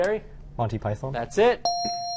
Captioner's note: dinging